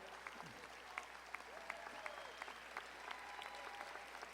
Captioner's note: audience applauding